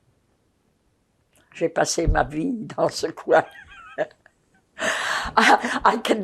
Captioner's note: laughing